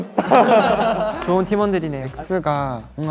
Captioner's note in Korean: 하하